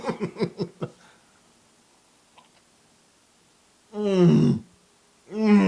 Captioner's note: laugh